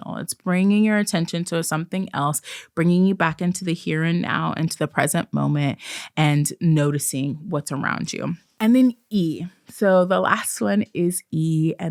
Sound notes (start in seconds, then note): none